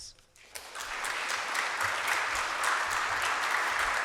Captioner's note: applause